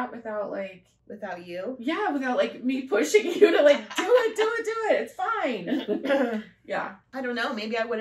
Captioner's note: laughter